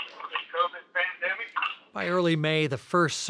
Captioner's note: leader On Phone